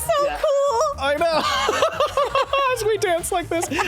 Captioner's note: laughs